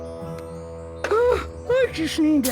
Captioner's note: yawns